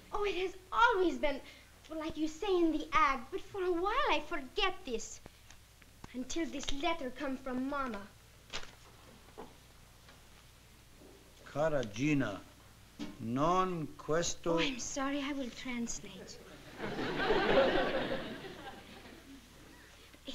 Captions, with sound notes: Oh, it has always been-- well, like you say in the ad. But for a while, I forget this, until this letter come from mama. Cartagena, [SPEAKING ITALIAN]-- Oh, I'm sorry. I will translate. [LAUGHTER]